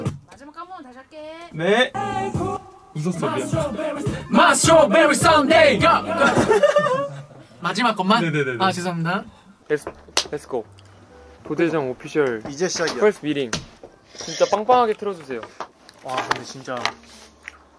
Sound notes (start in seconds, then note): 5.8 laughing